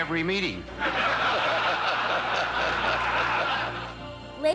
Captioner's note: laughter